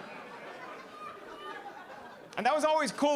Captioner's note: audience laughing